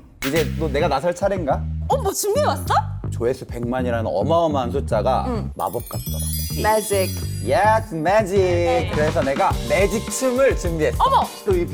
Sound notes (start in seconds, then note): 5.6 magical sound effect